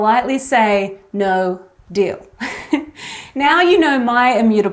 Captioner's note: laughs